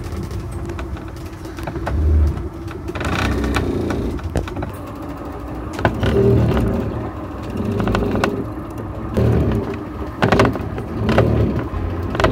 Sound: boat creaking continues

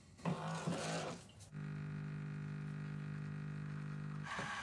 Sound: coffee machine whirring

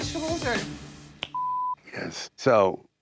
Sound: beep

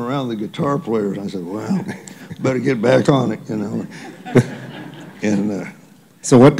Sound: laughter

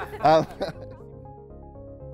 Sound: laughing

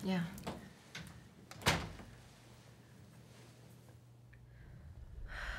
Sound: door closes; she breathes deeply

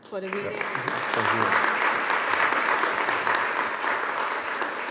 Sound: audience applauds

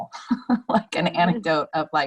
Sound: laughing

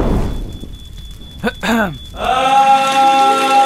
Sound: clears throat; loud awesome singing; water putting out fire

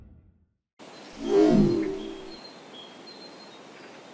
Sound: swoosh

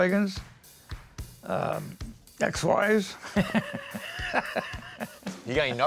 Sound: laughs

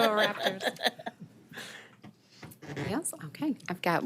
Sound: people laughing

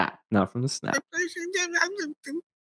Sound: babbling

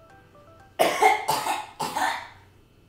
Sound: cough

